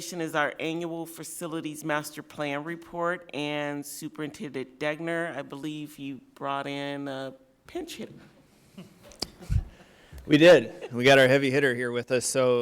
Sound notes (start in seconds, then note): 8.7 soft laughter